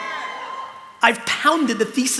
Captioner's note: cheering